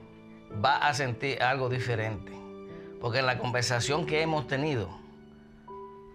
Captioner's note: speaking spanish